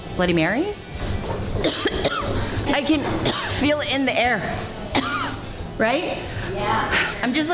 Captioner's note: coughs